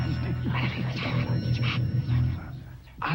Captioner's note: ominous whispering; mumbling